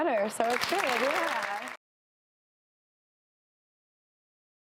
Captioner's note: audience claps